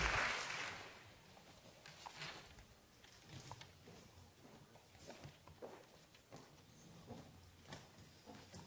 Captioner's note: applause